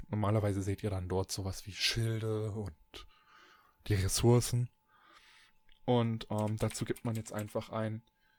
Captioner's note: ehm; ehm